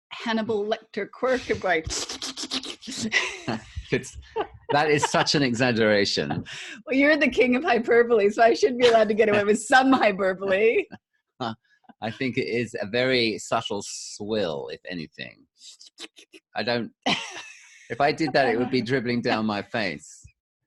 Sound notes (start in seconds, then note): 2.3 slurping Noise; 2.9 laughing